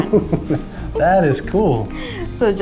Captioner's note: chuckles